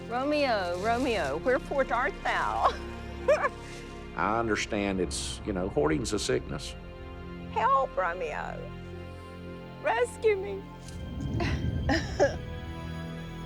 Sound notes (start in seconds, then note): 3.2 laughs; 11.3 giggles